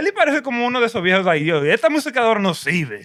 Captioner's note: non-english Speech